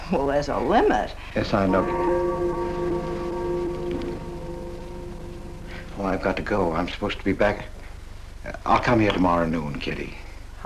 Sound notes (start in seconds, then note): 1.4 clock chimes